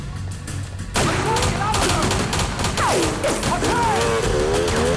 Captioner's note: guns firing; motorcycle engine revs